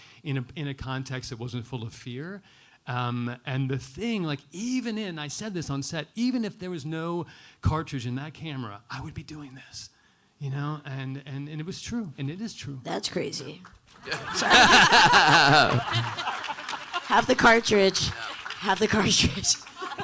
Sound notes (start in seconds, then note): 13.9 audience applauding; 14.0 panelists laughing